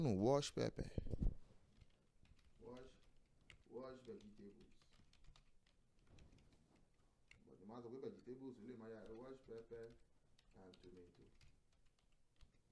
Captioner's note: typing